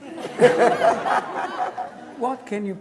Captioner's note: students laughing